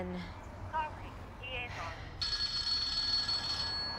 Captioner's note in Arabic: رنين الهاتف; هاتف